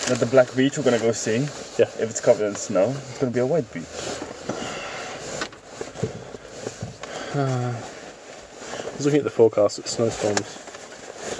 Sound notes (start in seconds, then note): 6.8 sighs